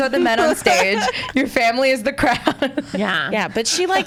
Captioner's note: laughs